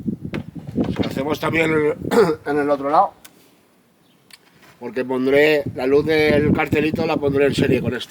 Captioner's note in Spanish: carraspeo